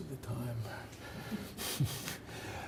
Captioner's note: chuckling